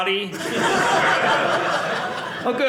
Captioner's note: audience laughing